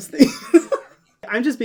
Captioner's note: laughs